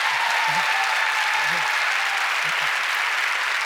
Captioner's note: cheers and applause